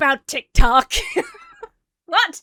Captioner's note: laughs